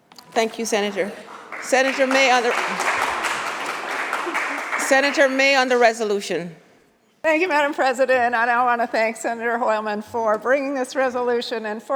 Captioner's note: applause